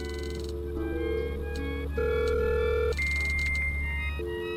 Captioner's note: computer humming